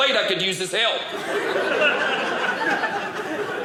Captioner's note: audience laughing